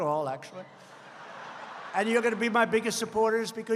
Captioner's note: laughter